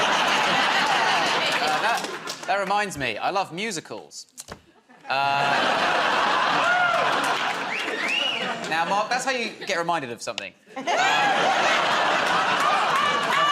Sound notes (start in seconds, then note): 0.0 laughter; 4.8 laughter; 8.0 wolf whistles; 10.7 laughter